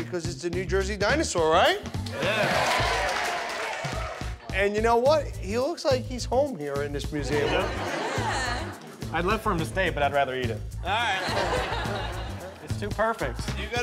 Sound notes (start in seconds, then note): 2.0 applause; 11.0 laughter